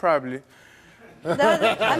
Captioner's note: audience laughs; Steve laughs